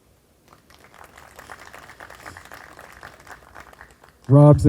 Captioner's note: group applauding